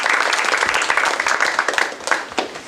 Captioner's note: applause